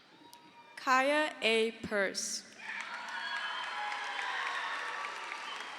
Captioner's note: crowd cheers